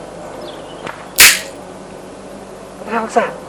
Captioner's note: a twig snaps